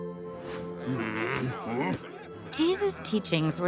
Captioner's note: grumbling